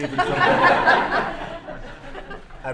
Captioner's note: laughter